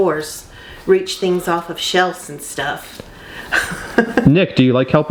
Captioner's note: laughs